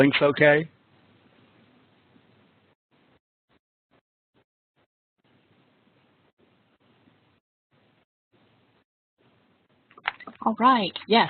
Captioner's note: silence